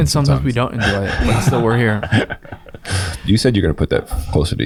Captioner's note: laughing